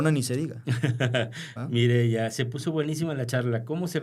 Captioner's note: laughter